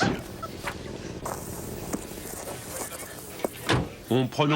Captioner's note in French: Claquement de portière, discours entremêlé